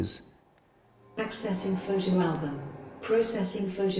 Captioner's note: AI Voice